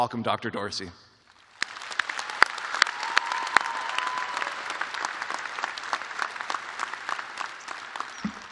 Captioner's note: applause